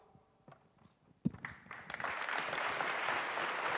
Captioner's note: applause